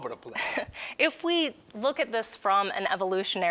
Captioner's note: chuckles